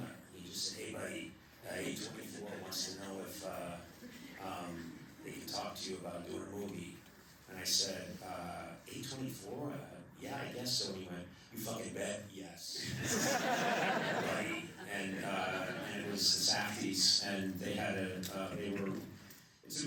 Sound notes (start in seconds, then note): 0.7 imitates sandler; 11.3 imitates sandler; 12.8 laughter